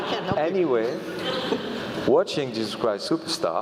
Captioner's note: laugh